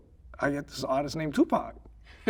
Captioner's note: laughing